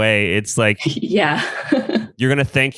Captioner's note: laughs